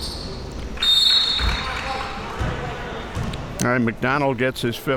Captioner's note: whistle blowing